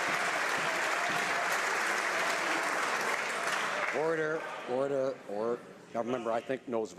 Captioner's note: some Applause